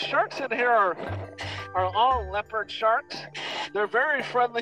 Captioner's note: quick oxygen inhale